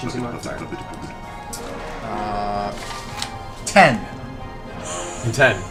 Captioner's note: laughs